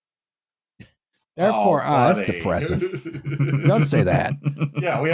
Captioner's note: chuckles